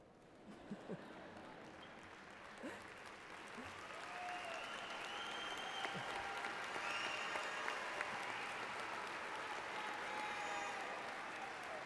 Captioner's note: laughter